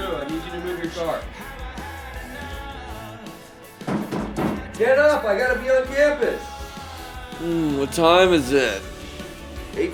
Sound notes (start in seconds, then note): 3.8 pounding on door